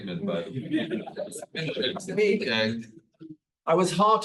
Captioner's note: attendees laughs